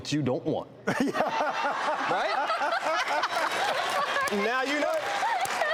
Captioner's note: crowd laughing